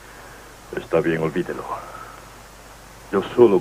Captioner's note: sighs